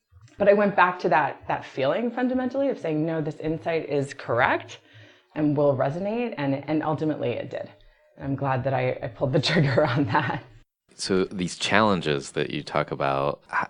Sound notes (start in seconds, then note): 10.7 laughs